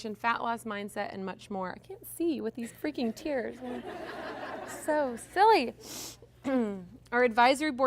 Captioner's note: sniffles